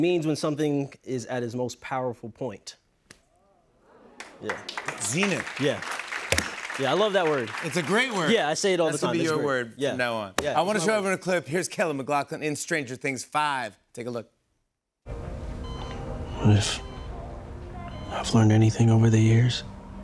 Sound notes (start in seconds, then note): 14.9 monitor beeping